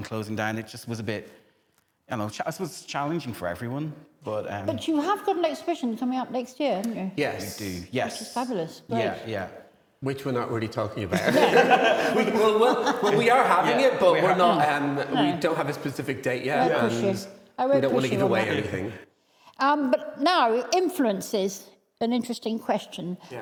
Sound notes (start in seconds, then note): 11.1 both laughing